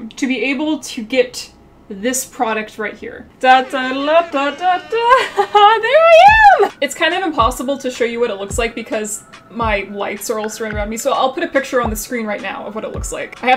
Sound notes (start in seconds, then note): 3.6 laughs